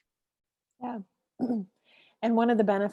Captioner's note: clears throat